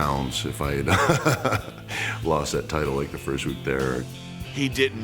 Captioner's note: laugh